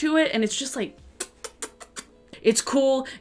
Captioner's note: smooching